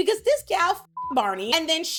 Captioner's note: beep